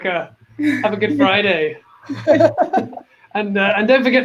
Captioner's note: laugh